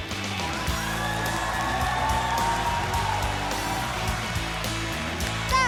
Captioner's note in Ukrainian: оплески